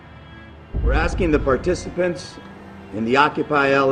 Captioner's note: voiceover